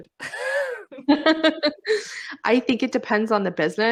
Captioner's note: both laugh